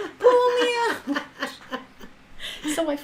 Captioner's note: laughing